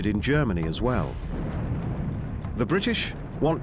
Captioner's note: explosions